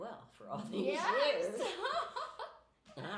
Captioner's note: laughing